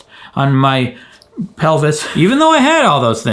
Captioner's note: laughs